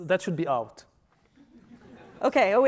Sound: laughing

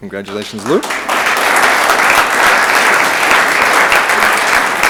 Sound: room applauds

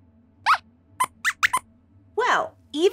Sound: squeaks squeaks

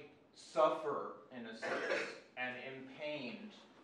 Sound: student cough

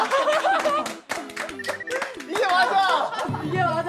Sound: clapping

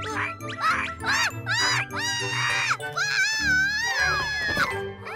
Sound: grunting; squawking; screaming

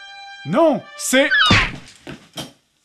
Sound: seagull cry

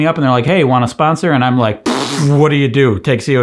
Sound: blows raspberry

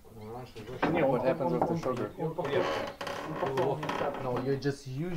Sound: people speaking foreign language

